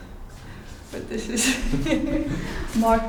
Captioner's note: laughter